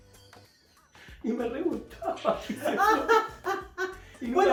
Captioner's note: laughs